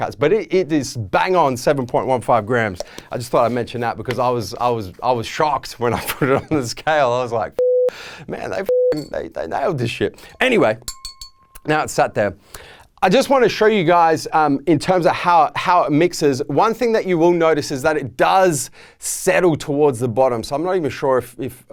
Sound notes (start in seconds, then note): 5.6 laughing; 8.6 beeping